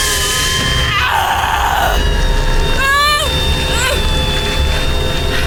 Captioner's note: Sally grunting in pain